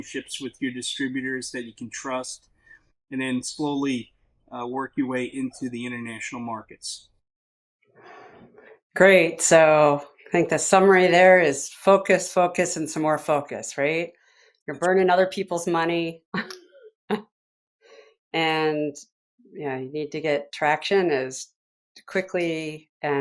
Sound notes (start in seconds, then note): 16.4 chuckles